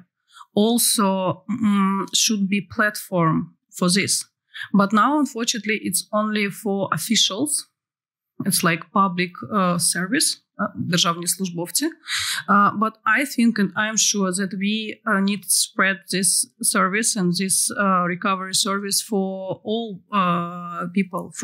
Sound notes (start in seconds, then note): 11.2 non-english